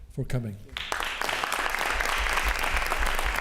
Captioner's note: applause